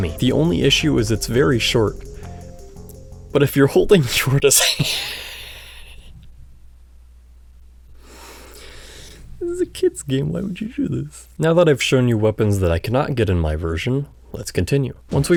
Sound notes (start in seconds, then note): 4.6 laughter